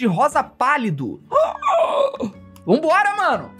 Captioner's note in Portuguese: felipe faz som de surpresa